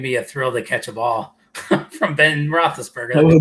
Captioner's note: laughter